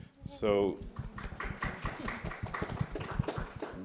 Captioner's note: scattered applause